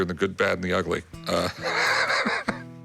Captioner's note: laughs